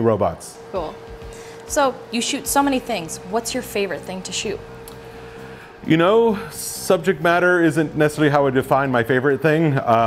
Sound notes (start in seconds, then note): none